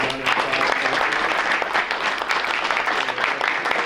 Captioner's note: applause